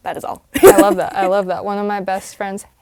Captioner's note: laugh